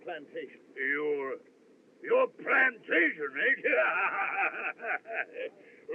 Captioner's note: laughs